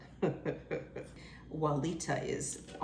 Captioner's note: chuckles